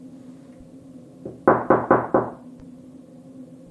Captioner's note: knocking